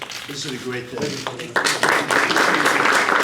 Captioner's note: applause